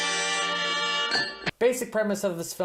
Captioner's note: ding